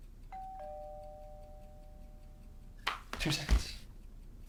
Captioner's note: doorbell ringing